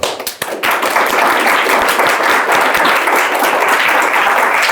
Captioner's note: audience applauding